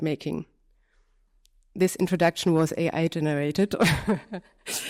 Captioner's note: laughter